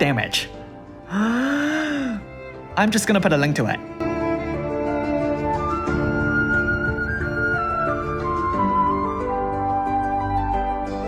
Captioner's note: inhales